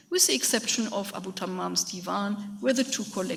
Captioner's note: speaks in a foreign language